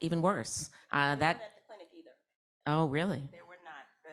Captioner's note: speaking faintly